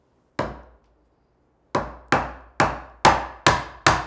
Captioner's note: hammer banging